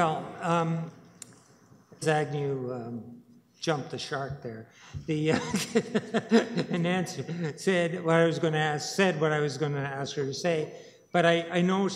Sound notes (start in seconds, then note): 5.2 laughter